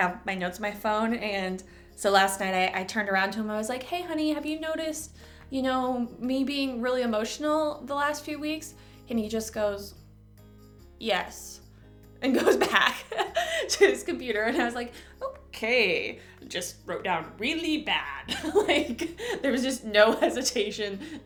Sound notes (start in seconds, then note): 13.2 chuckle